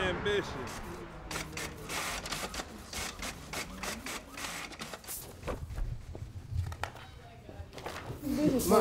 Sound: clicking; chatter

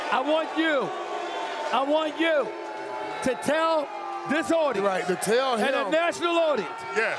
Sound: cheers and applause

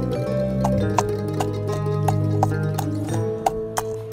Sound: hooves clacking

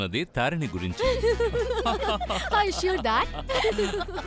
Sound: all three laughing

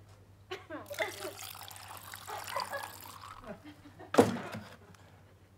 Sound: juice sloshing

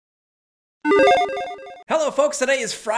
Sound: logo beeps

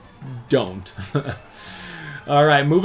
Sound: laughs

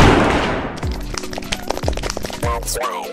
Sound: applause

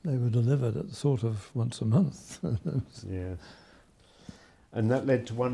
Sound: chuckles

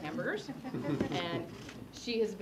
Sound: laugh

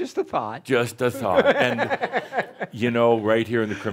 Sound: laughs

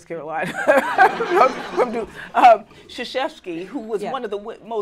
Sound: laughter

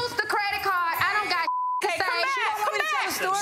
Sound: beep

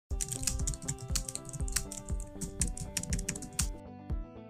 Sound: keyboard clacking

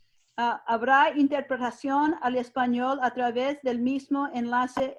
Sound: speaking in foreign language

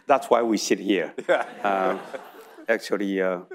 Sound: audience laughing; laughs

